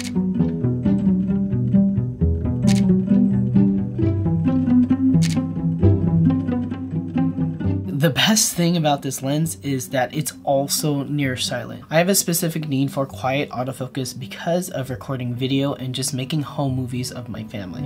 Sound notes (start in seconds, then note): 0.1 soft music plays; 2.6 camera snaps repeatedly